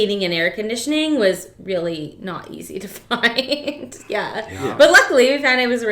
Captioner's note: laughs